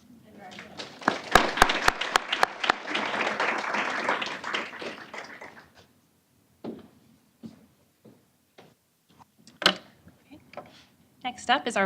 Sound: applause

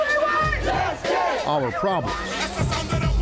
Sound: crowd

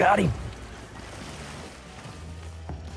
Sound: splplashing

